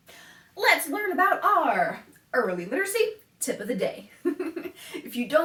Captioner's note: laughs